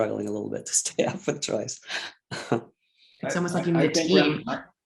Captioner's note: chuckles